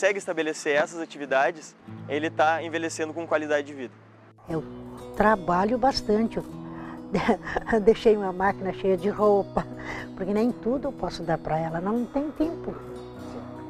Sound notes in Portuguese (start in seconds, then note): 7.1 risos